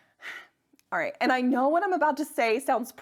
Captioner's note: sighs